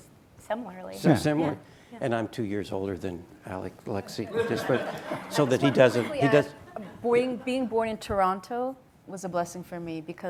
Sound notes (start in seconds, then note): 4.1 audience laughing